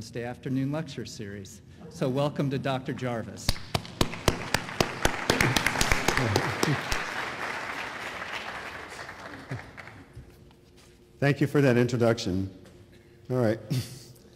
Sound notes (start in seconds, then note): 3.6 applause